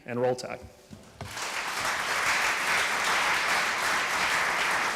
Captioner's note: applause